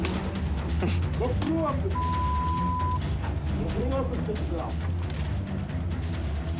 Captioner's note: recorder snickers